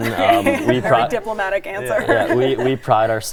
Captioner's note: laughs